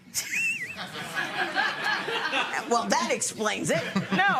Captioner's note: laughs